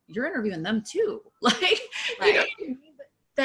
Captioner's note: chuckling